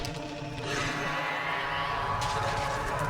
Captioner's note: dragon roars